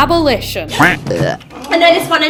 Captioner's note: funny buzzing sounds